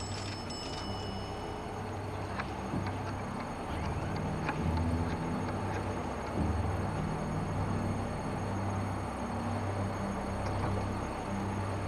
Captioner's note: bell dings